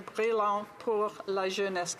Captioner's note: speaking French